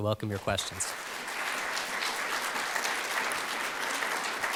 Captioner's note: audience applauds